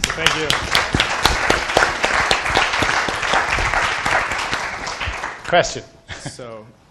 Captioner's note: moderator and audience applauding